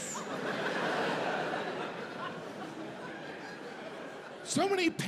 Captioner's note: audience laughs